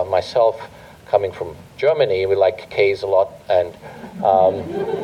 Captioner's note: laughter